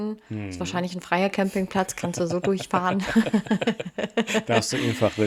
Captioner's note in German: gelächter